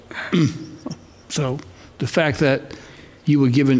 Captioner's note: clears throat